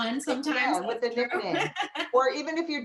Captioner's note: laughter